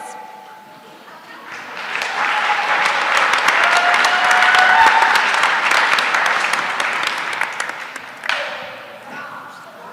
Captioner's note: applause